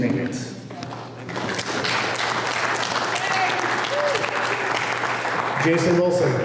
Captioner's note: applause